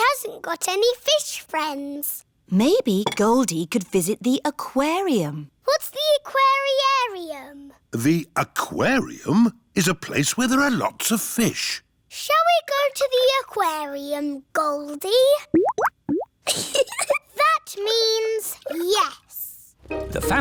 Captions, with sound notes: She hasn't got any fish friends. Maybe Goldie could visit the aquarium. What's the aquari-arium? The aquarium is a place where there are lots of fish. Shall we go to the aquarium, Goldie? -(BUBBLING) -(GIGGLES) That means... Yes.